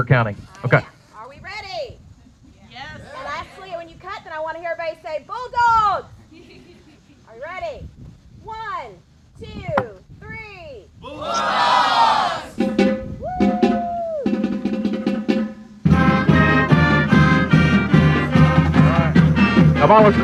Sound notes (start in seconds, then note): 6.3 someone chuckles; 14.1 drumming begins